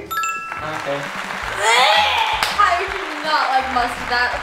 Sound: correct bell rings; crowd clapping; dry retching

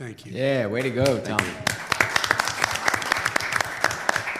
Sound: applause

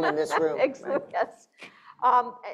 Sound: laughing

